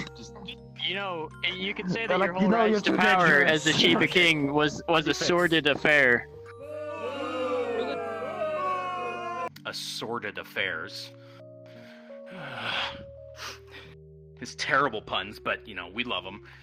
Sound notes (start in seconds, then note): 6.8 booing; 12.2 sigh